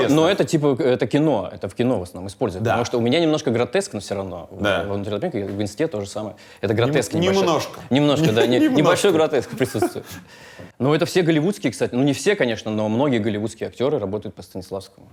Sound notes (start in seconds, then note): 7.9 laughs